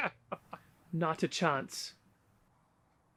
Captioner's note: flatly